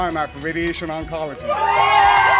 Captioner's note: applause